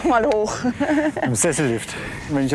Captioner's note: laugh